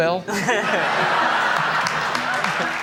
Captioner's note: laughter